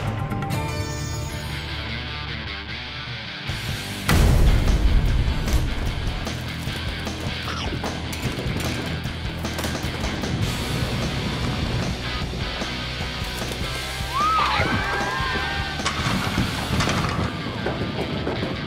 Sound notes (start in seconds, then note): 1.7 electric guitar; 4.1 gunshot; 7.3 chomp; 9.8 electric guitar; 14.0 cheering; 14.2 chomp